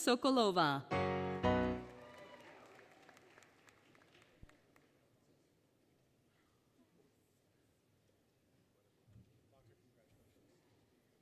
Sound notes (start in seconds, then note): 1.1 applause, Cheering, Music; 1.2 applause, Cheering